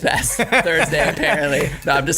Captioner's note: laughing